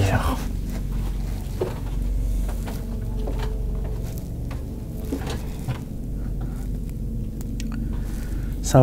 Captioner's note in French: Grincements d'escaliers